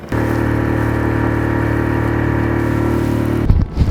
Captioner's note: boat motor revving